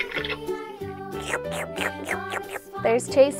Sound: slurping

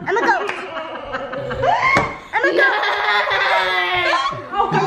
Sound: family laughing; braying; children braying

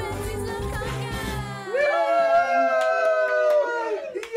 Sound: everyone cheers

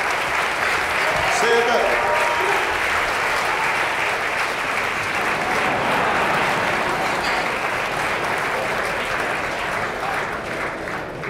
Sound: applause

